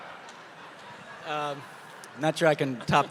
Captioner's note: audience laughing